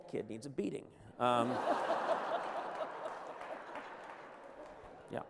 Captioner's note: laughter